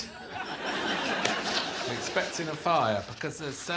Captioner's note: laughter